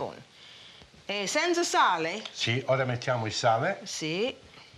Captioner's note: speaking Italian